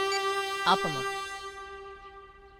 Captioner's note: none